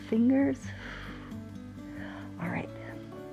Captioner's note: exhales